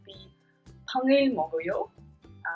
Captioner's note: speaking in Korean